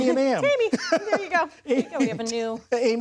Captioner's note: laughter